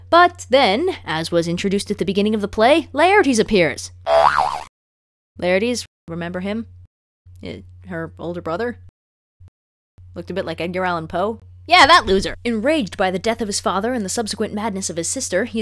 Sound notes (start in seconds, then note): 4.1 boing!